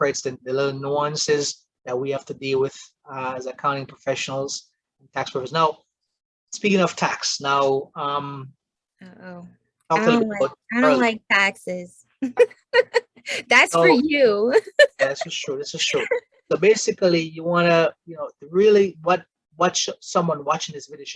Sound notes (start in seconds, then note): 9.4 laughs